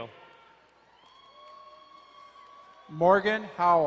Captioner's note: crowd cheering and applauding